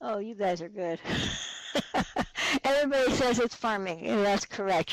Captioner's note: laughs